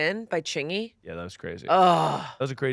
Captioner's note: groans